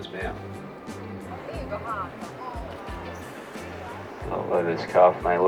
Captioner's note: passengers murmuring